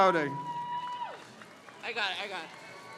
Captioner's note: crowd cheers